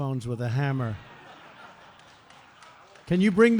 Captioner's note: laughter